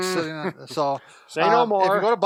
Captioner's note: laughs